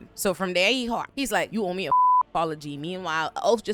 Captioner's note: beep